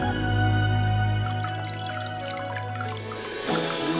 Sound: water flowing

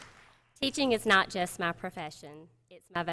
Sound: applause

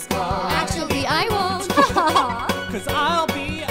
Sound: both chuckling

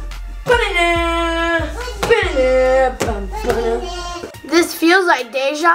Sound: humming the theme

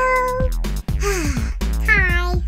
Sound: Gigglebot sighs

